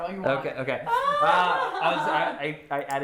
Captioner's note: laughing